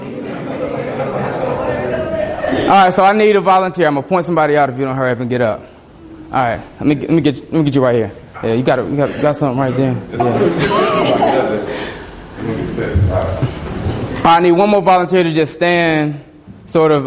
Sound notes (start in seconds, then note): 0.0 students laugh and chatter; 10.1 laughs; 11.1 students conversing